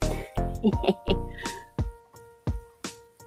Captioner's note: giggles